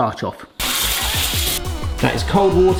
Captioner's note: water running